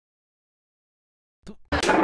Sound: spit

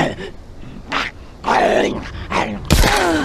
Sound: bang

